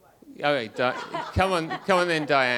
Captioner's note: audience laughs